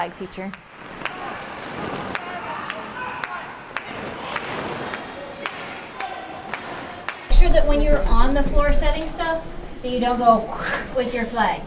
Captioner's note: whoosh